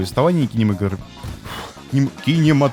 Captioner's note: exhale